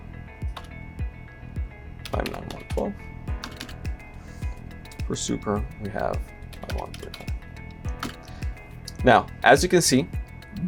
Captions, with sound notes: five nine one 12. For super, we have (murmurs). Now, as you can see,